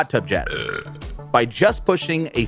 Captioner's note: burping